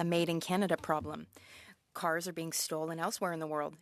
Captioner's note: speaking French